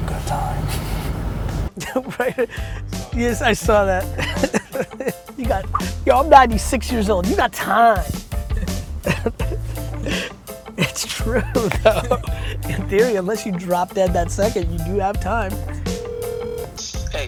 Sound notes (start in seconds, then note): 3.9 laughs; 15.6 phone ringing